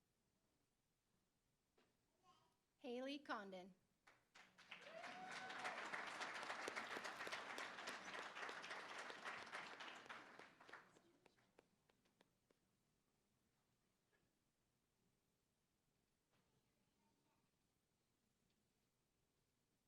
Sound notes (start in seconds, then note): 4.0 applause; 4.6 cheering